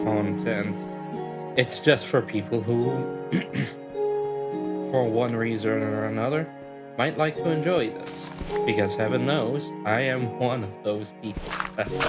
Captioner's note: clears throat